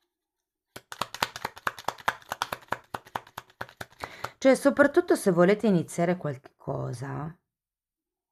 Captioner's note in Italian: Applauso